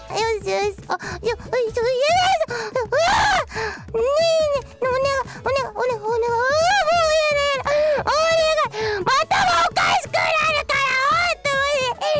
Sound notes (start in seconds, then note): 2.0 AI-chan struggling noises